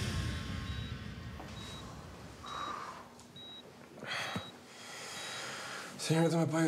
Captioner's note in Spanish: sonido de telemetría